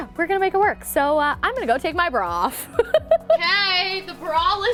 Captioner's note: laughing